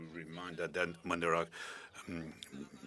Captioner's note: speaking French